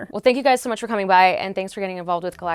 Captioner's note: none